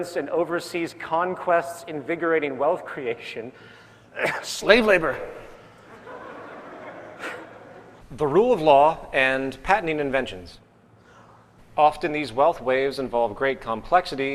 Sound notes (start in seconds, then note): 4.1 cough; 5.8 laughter